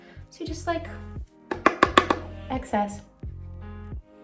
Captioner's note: brush taps